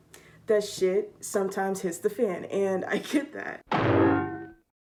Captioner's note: sound effect